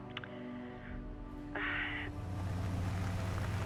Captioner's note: sighs